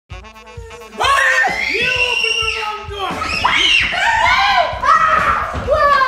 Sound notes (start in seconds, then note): 0.1 energetic upbeat music; 1.1 screaming